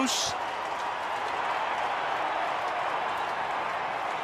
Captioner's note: cheering